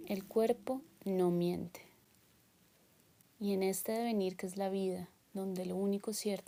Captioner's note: speaking in foreign language